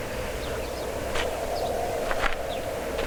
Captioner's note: birds chirping; wind howling; footsteps crunching